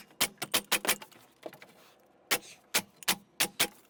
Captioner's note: nails clicking; tape fast forwarding